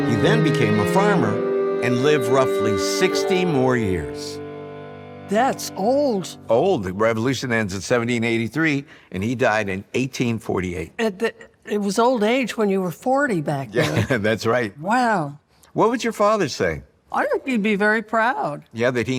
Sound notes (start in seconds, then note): 13.7 laughs